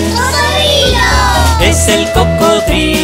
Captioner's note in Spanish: coro de niños gritando